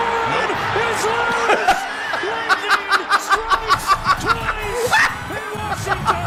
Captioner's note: the return of maniacal laugh